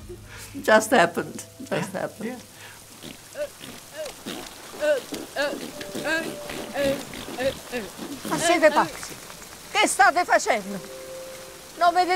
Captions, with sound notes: Just happened, just happened. (kids mumbling) (speaking in Italian)